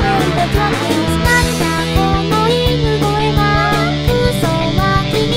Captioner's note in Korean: 멍멍